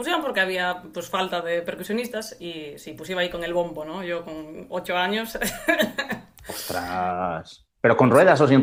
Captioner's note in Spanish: risas